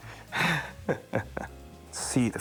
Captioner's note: chuckles